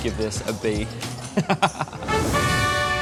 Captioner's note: laughs